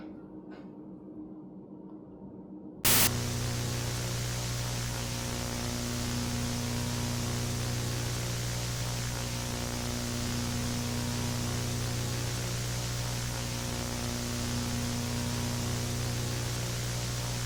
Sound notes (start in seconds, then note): 2.8 static